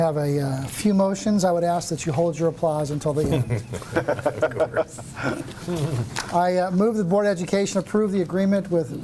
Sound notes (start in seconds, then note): 3.3 laughing